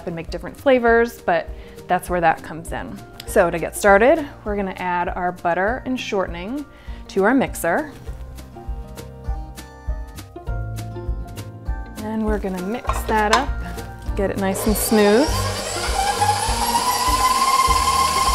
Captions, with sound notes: and make different flavors, but that's where that comes in. So, to get started we're gonna add our butter and shortening to our mixer. Then we're gonna mix that up, get it nice and smooth. (whirring)